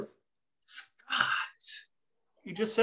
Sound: whispering

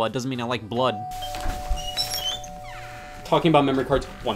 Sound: doorbell ringing

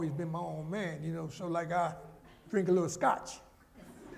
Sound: laughter

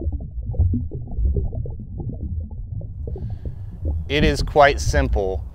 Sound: water gurgling

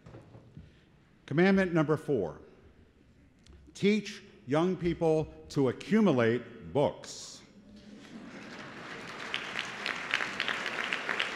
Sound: applause

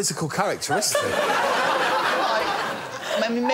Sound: laughter

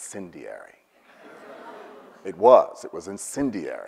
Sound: audience laughs

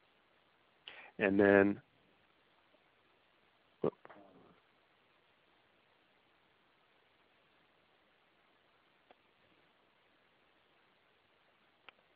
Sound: silence

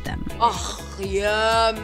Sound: moans

